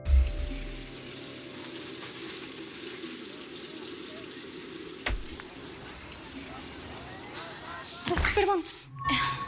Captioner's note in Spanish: Sonido del agua